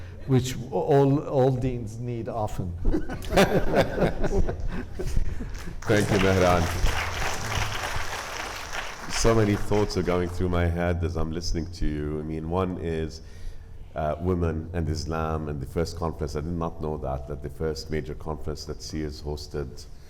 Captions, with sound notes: which all deans need often. (group laughing) (audience applauding) - Thank you, Mehran. So many thoughts are going through my head as I'm listening to you. I mean, one is women and Islam, and the first conference, I did not know that, that the first major conference that CIRS hosted